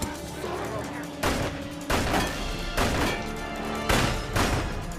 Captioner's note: guns firing